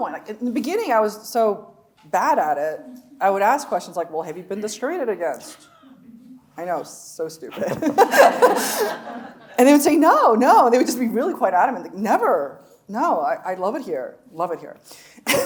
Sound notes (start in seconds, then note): 7.6 chuckling; 7.6 audience laughing